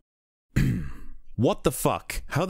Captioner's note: clears throat